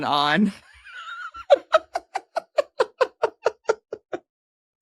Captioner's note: laughing